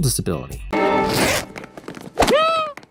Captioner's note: zipper noise